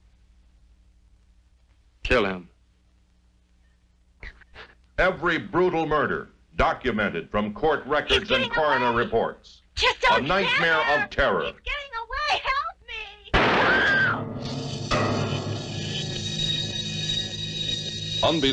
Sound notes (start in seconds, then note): 13.3 gun firing; 13.5 screaming; 14.2 suspenseful music